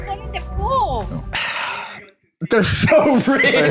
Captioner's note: sighs; laughs